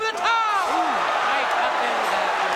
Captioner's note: crowd cheering